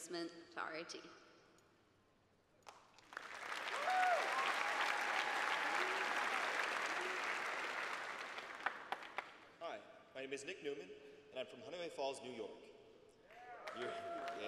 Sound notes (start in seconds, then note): 8.2 applause; 12.0 applause